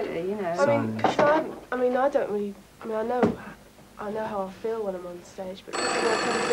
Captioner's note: phone rings